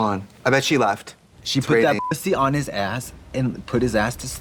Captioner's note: beep